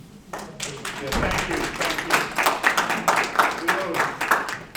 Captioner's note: audience applause